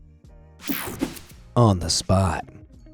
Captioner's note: screen whooshing